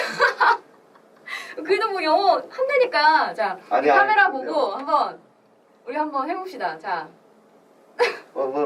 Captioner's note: laughs